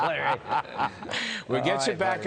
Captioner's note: laughter